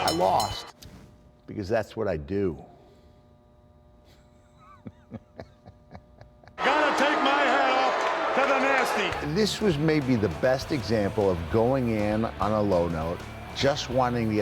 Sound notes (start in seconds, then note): 4.3 laugh